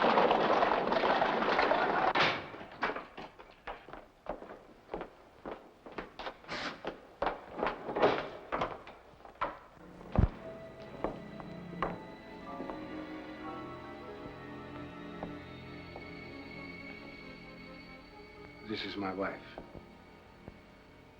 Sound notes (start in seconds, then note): 0.0 hooves trotting; 2.1 door opens; 7.4 drapes slide forcefully; 7.9 door unlocks & opens; 9.8 ominous music